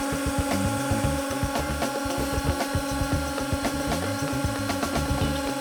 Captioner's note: hydraulic machine running